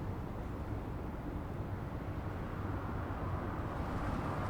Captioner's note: distant traffic humming